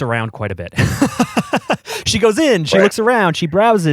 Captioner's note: laughs